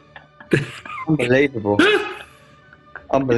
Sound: laughter

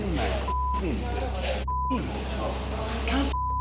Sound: beep

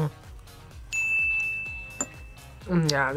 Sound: bell rings

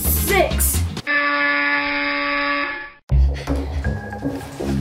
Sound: buzzer noise; background music intensifies

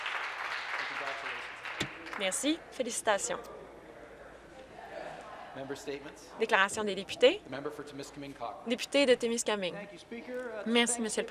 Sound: applause

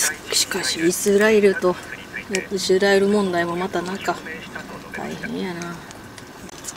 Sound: radio

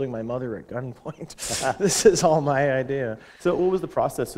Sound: chuckle

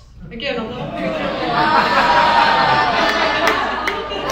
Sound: audience laughs

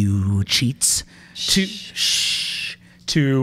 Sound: both shush

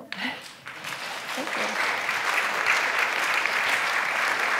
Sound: applause

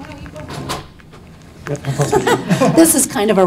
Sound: laughs

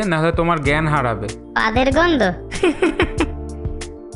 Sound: laughing

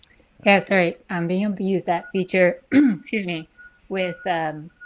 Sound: clears throat

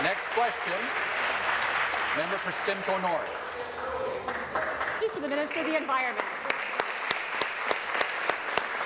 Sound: applause

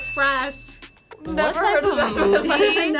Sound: bell chiming

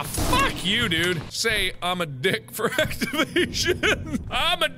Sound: laughing

